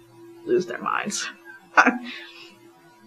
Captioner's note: laughs